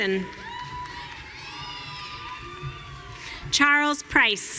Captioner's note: audience cheering